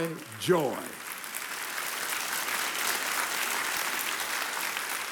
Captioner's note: audience applauding